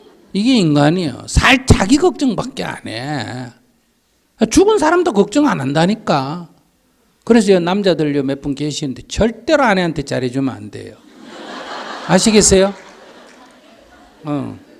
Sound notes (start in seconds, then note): 11.0 audience Laughter